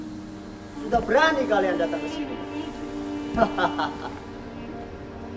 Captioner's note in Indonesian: ketawa